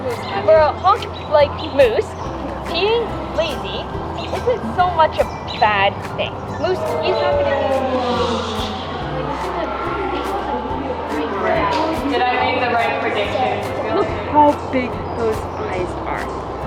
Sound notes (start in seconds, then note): 11.9 whispering